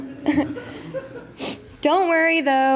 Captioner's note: laughter